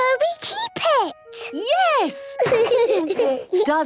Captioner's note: laughter